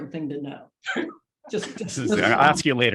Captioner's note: group laughs